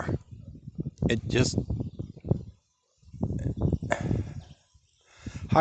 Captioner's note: sigh